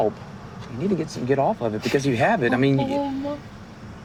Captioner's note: whimpers